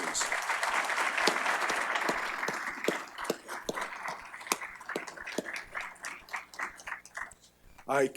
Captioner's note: applause